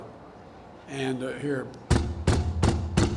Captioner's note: makes knocking sound